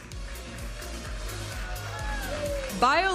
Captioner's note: audience applauding and cheering; upbeat music